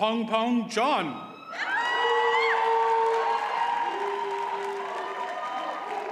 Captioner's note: audience cheers and applauds